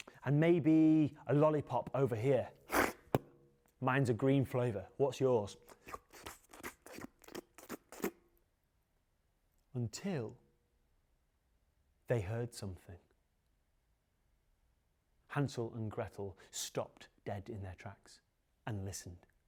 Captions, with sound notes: And maybe a lollipop over here (slurps). Mine's a green flavor. What's yours? (slurps) Until, they heard something. Hansel and Gretel stopped dead in their tracks and listened.